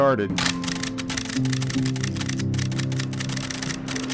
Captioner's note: camera snapping